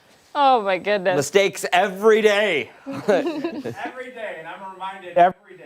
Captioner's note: laughter